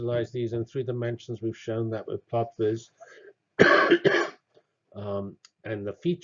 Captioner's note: cough